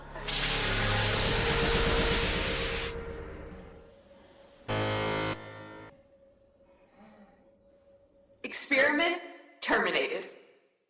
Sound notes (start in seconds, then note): 0.3 electric shock; 4.7 buzzer